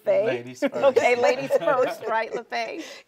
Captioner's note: laughing